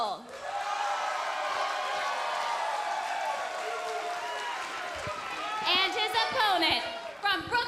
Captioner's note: crowd cheering